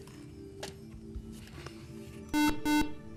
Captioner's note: buzzer